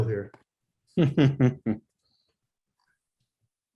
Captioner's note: laughing